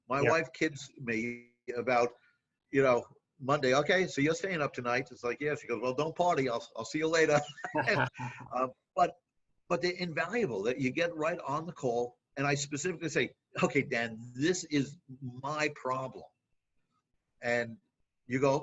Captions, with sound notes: My wife kids me about Monday, okay, you're staying up tonight. It's like, yeah, she's goes well don't party, I'll see ya later. (laughing) But they're invaluable. You get right on the call and I specifically say, okay Dan, this is my problem and you go, okay,